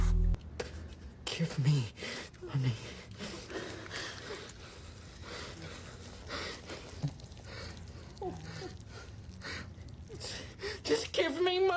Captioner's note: panicked breathing and pissing noises